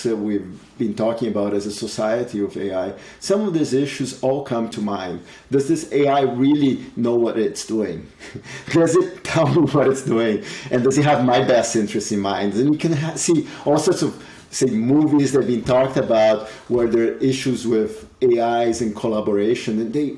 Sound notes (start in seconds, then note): 8.2 chuckles